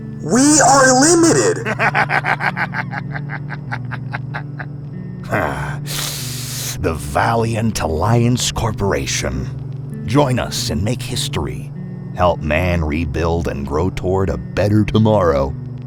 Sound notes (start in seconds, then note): 0.1 Houston laughs maniacally; 5.9 Houston inhales through gritted teeth